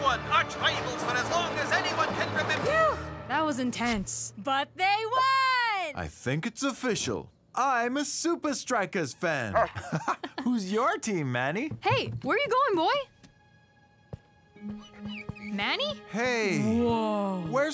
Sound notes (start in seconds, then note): 9.5 barking, laughing; 14.4 Manny whining